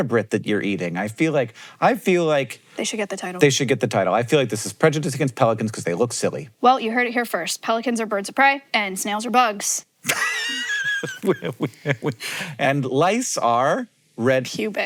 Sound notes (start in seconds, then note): 10.0 Hank laughs